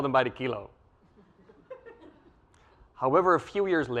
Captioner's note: laugh